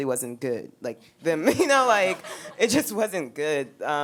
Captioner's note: laughing